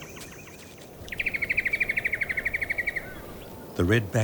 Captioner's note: birds chirping